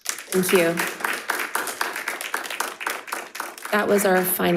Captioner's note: crowd applauding